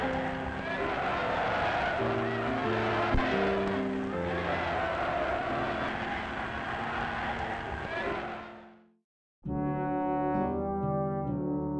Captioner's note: chanting